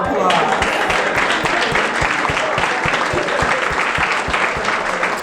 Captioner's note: audience clapping